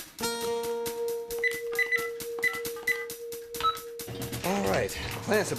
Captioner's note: fax Machine Buttons Beeping